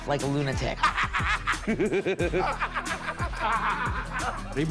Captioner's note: laughing